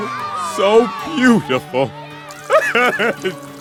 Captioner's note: sobbing